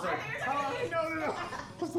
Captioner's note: overlapping laughter